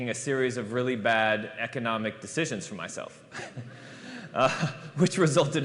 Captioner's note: laughter